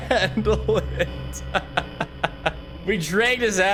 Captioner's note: laughs